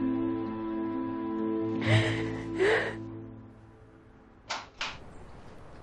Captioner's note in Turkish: none